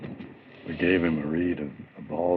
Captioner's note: none